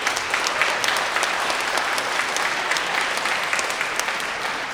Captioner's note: everybody applauding